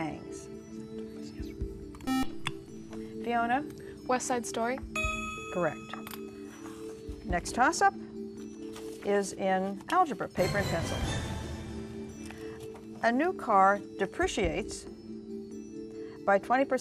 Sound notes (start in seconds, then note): 2.0 buzzer